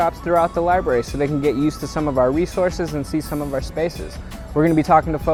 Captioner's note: none